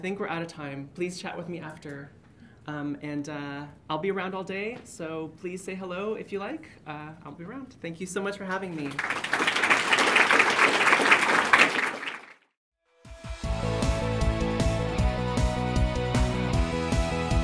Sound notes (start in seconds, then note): 8.7 applause; 13.2 upbeat music